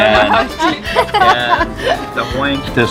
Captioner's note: laughing